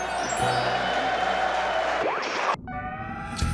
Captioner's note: audience laughs and applauds; easygoing music